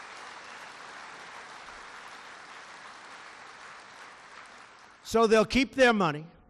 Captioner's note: applause